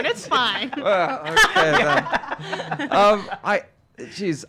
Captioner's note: laughing